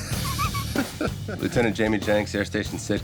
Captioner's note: laughing; drums